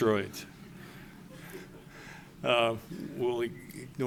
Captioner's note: laughter